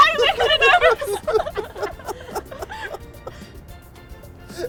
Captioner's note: laughter